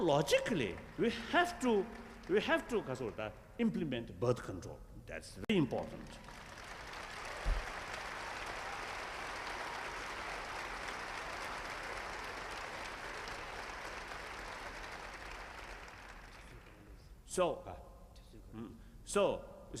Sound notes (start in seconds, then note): 5.7 applause